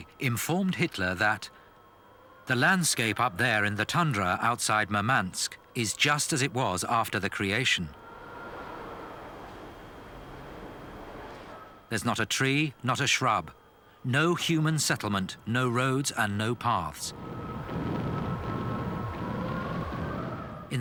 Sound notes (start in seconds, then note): 9.2 wind howling; 17.1 explosions booming